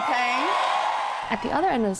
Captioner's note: cheering and applause